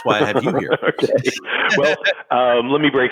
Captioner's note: laughs